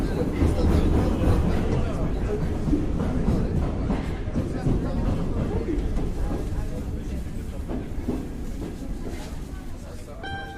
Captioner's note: rhythmic sounds of train pulling into station; chimes arpeggio played on mandolin